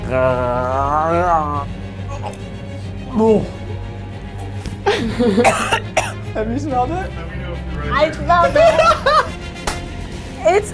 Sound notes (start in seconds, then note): 0.0 man growling; 2.0 man gags; 5.3 girl coughs; 8.5 man laughing